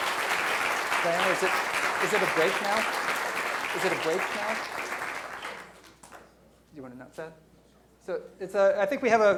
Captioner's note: applause